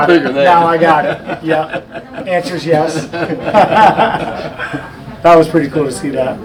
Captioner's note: man laughs; men laughing